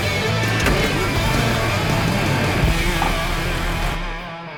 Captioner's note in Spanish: Sonido al arrancar el motor